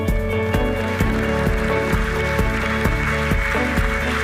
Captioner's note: audience applauding